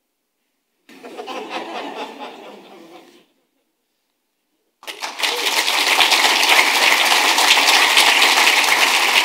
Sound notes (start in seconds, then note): 0.9 audience laughing; 4.8 audience applauding